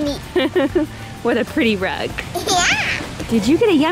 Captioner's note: laughs